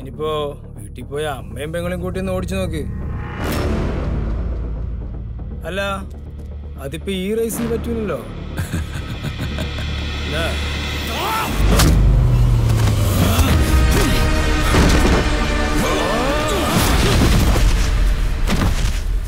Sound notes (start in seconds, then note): 8.6 laugh